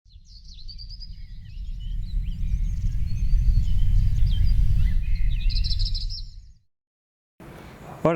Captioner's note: pájaros trinando